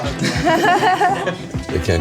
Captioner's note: laughs awkwardly